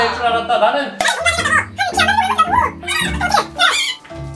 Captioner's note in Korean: 빠르게 돌린 말소리